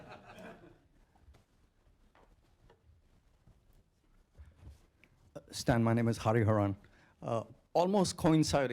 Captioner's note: laughter